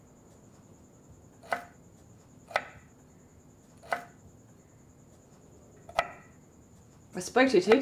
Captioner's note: knife chops